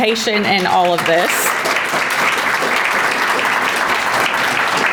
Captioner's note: audience applauding